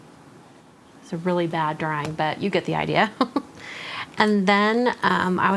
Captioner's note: giggles